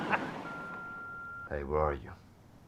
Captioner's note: laughs; beep